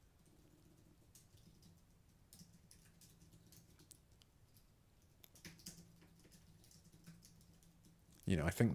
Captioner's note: typing